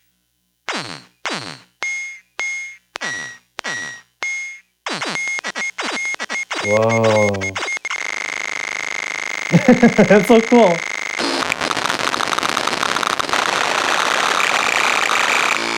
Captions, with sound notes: Whoa! That's so cool! (loud crackling)